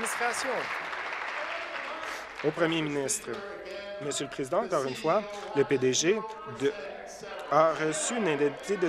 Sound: applause

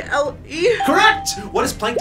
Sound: electronic bell chimes

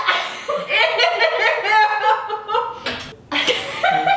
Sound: laughing

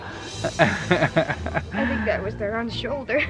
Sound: laughing

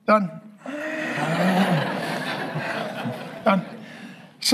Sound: congregation laughing

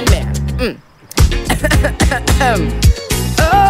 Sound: coughs

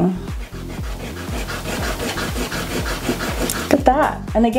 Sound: eraser rubbing

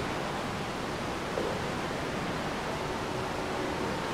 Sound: water rushing

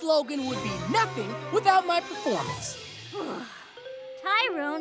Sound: gasp

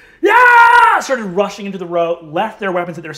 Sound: screaming

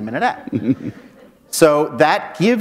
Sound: chuckle

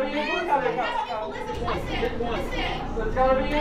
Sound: people shouting

